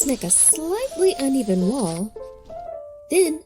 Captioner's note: pencil scratching